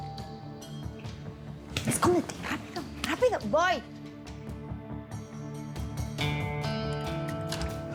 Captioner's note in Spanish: Timbre de la puerta